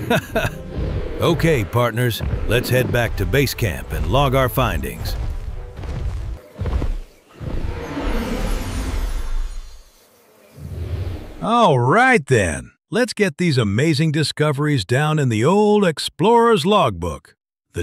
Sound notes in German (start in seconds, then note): 0.0 Lacht; 5.3 Dinosaurier-Brüllen; 5.3 Dinosaurier-Schritte